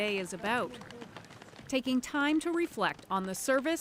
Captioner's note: applause